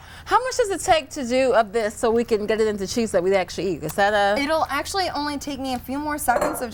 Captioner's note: none